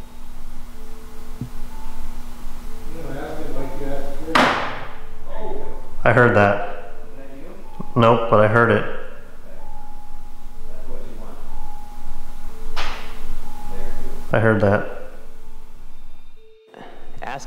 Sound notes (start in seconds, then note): 4.2 metal clanking; 12.7 metal clanking